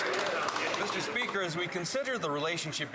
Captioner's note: applause